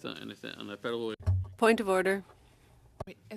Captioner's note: speaking French